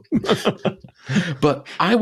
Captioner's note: laughing